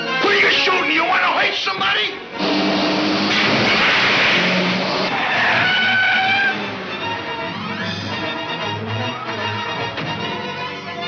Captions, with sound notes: You wanna hurt somebody? (crashing) (tires squealing)